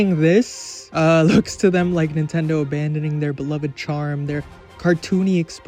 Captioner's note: laugh